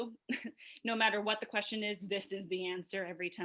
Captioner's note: laughs